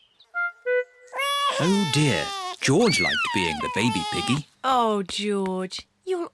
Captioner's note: bawls